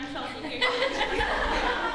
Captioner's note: laughter